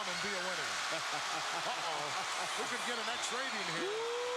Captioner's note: laugh